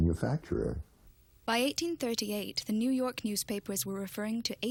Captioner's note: voiceover